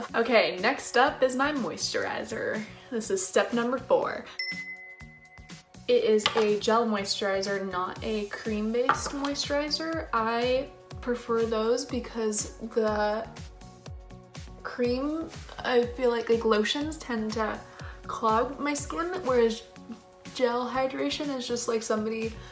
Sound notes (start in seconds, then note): 4.4 chimes